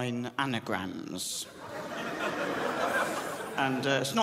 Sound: crowd laughs

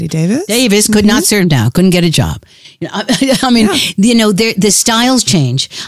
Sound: guffaw

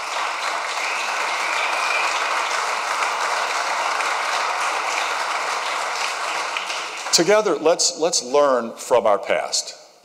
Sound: applause

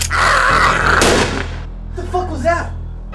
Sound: gun fires

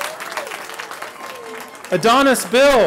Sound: cheering

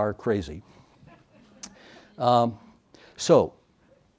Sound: audience laughs

